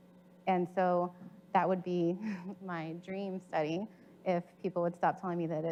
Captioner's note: chuckles